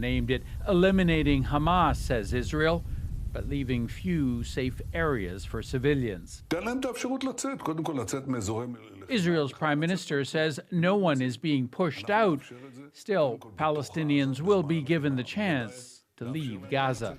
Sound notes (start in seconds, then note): 8.9 speaking alternate language